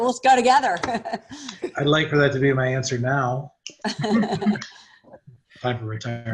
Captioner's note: laughs